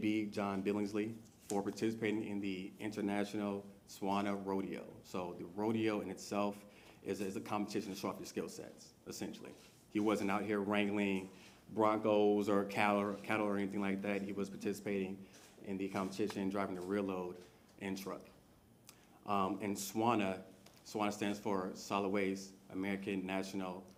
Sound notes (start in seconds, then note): none